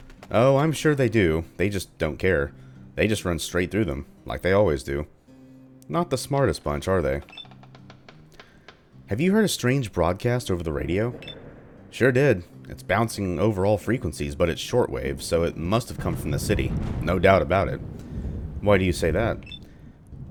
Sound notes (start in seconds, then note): 11.1 thunder; 15.7 thunder